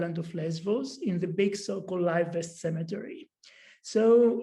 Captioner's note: non-english speech